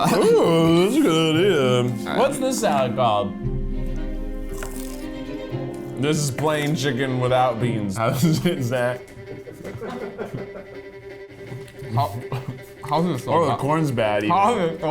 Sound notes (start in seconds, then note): 9.0 laughing